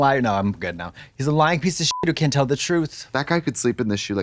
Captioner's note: beep